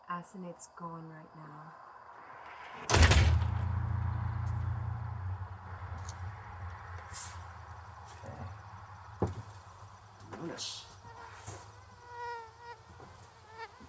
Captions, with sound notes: - Asenath's gone right now. (thudding) - Okay. Unis. (fly buzzing)